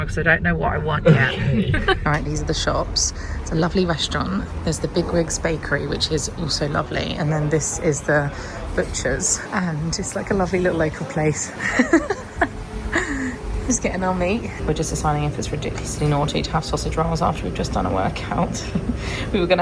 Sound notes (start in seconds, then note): 1.0 laughs; 11.4 laughing